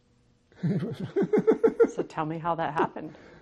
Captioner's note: laughing